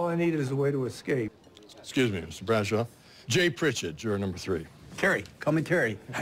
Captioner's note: normal voice